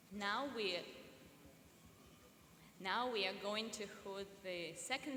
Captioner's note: none